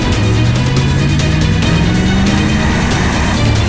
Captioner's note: tires squealing; intense dramatic music